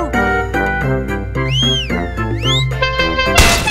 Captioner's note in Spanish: Cappy chiflandole a la nave